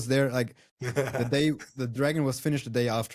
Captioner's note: laughs